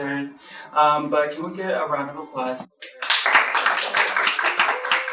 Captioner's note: applause